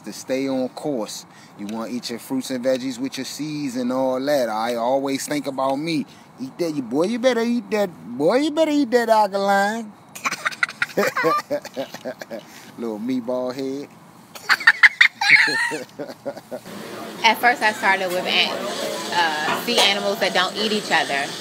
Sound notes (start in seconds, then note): 10.1 hard laughing; 14.3 chuckles